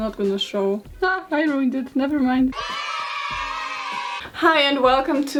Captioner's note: children going "YAY"